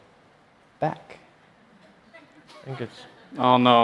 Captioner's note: break in audio